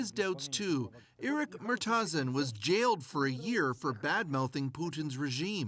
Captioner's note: speaking russian